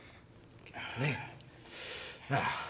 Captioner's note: groans